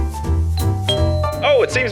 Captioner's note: doorbell rings